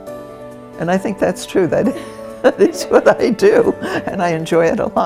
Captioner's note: laughs